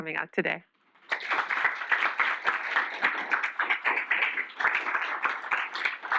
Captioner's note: applause